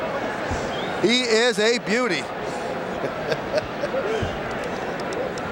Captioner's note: chuckles